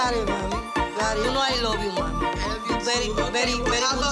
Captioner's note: speaking Spanish